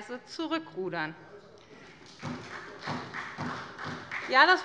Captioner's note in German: Beifall bei der SPD - Zuruf von der CDU: Das ist doch schön!